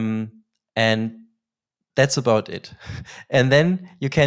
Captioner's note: laughs